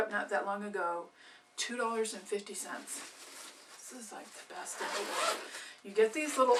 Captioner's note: sound of zipper